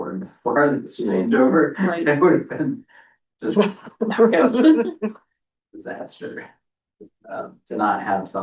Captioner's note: laughter